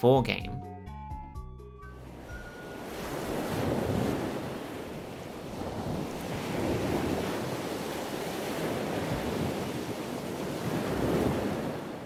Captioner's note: sound of waves crashing